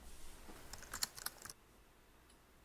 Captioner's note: typing